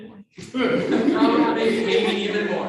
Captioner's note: all laughing